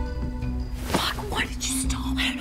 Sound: rustling of clothes

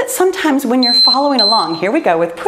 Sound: timer beeping

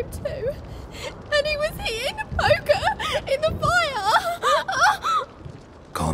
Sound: sobbing; sobbing; loud sobs

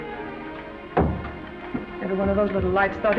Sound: door closes

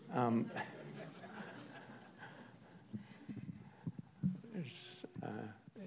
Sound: audience laughs

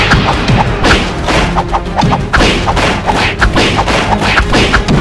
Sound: cartoon swiping

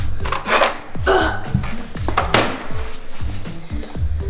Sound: grunting

